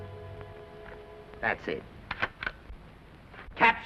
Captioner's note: camera shutter clicks